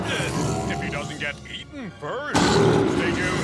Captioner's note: dinosaur roars